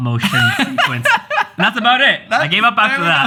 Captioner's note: laughs